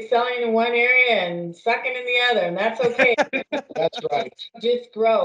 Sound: laughs

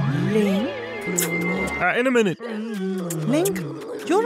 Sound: frog voice

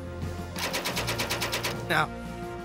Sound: gun shots

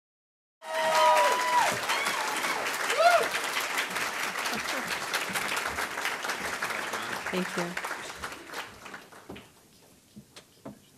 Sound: applause

